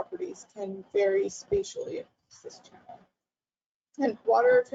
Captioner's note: audio is choppy